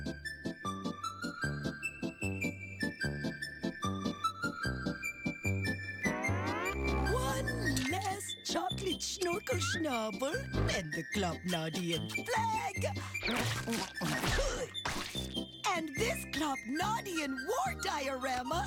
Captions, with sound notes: [bright music] - One last chocolate Schnorkle Schnobble and the Klopnodian flag... [chomps] Ptoo!